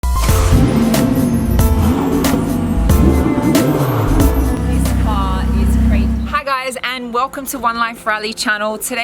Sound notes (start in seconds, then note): 3.0 engine revving